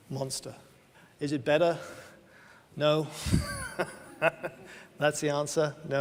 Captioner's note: laughs